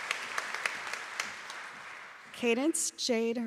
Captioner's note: applause